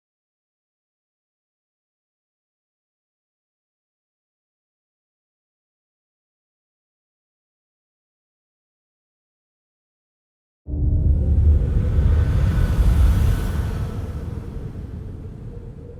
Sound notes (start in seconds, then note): 10.7 dramatic wind howling